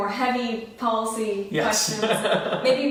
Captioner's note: laughs